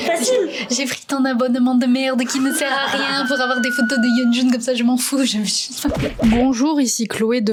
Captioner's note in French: rage